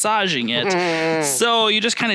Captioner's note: grunting